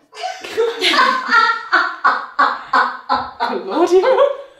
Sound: laughing

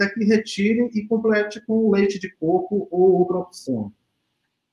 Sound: speaks portuguese

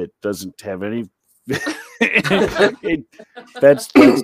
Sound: laughter

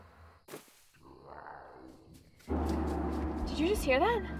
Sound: creature growling

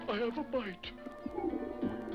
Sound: water bubbles

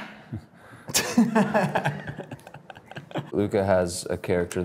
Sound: Drew laughs

